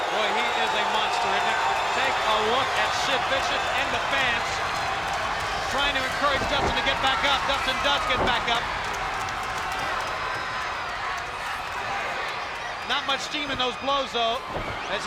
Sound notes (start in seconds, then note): 8.8 crowd yelling